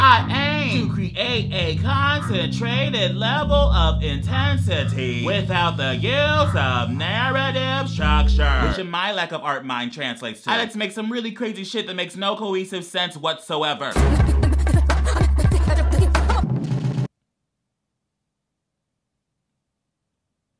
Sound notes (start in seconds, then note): 3.3 warped music; 13.9 chaotic music; 14.0 choppy breathing